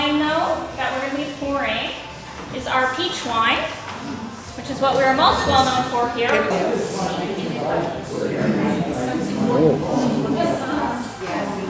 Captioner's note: chatter